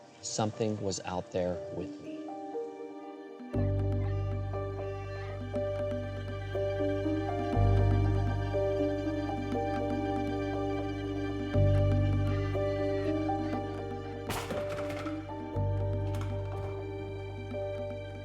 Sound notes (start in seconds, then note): 3.0 pensive music; 14.2 clattering